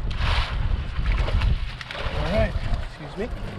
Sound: fish splashing

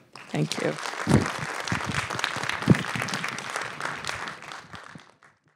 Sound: applause

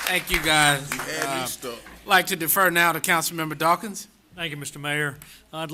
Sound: applause

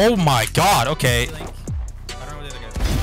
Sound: gun firing

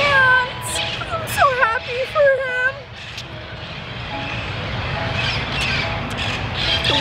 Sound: crying

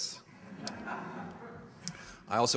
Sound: audience laughter

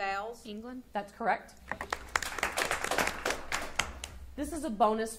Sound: audience applauding

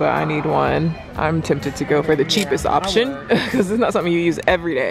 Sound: laughs

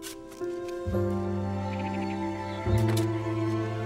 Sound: birds chirping

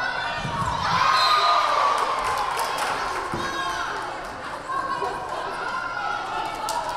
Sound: crowd cheering; whistle blaring

